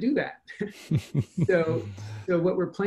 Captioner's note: chuckles